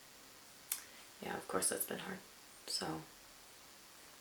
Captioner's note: clicks mouth